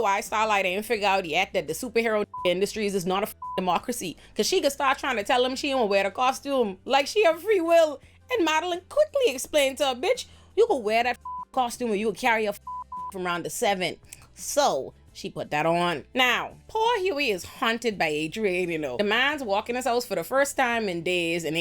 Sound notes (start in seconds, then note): 12.6 beep